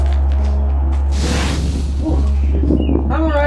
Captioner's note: explosion